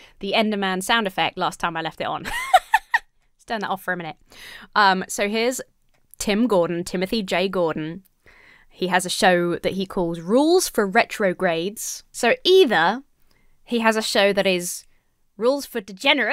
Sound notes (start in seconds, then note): 2.3 giggles